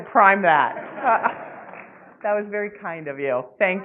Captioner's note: laughing